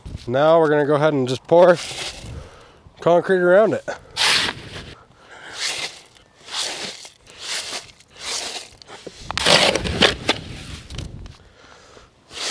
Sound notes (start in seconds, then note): 5.3 shovel scrapping; 6.4 concrete rattling; 10.1 shovel scraping; 10.1 wind whooshing